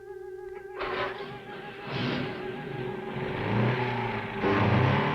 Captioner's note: car engine revving